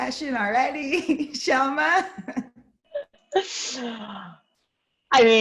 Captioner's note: laughs